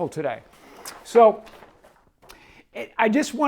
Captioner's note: paper rustling